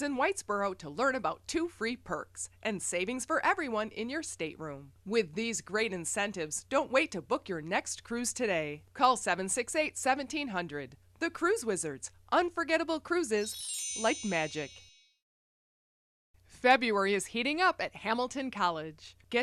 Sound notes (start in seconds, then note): 13.4 chime